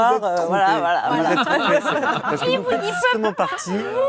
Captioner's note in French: rires